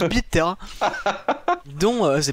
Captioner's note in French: rire